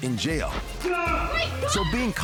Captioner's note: people screaming